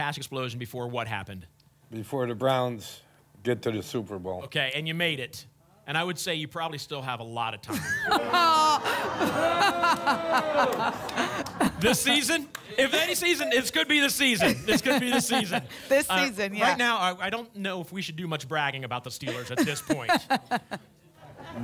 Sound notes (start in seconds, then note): 7.7 laughs; 8.0 audience boos